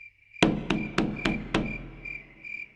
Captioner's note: knock On Door